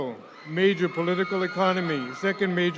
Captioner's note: audience cheering